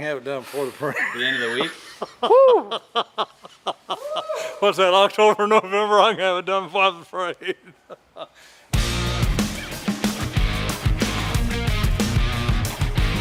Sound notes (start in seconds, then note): 0.9 laughing